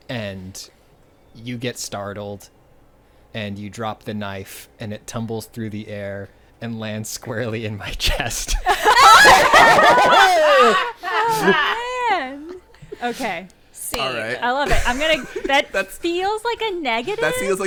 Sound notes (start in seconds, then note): 8.6 everyone laughing